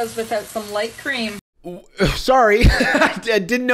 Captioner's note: laughs